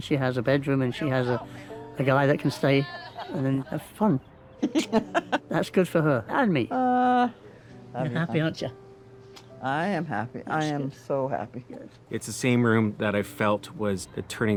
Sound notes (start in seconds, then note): 2.4 giggles, sighs